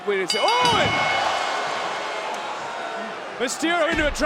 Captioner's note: bell ringing